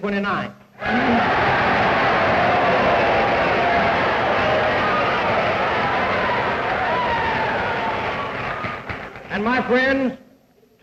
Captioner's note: cheers, applause